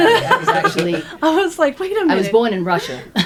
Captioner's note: laughing